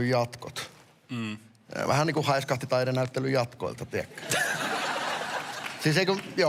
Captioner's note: laughter